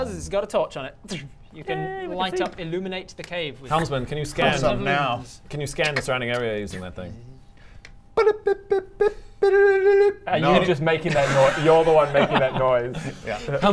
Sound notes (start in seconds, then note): 8.2 bi-bop bip bip bip